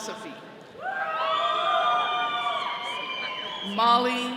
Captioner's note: all cheering